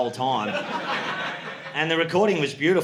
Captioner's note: audience laughing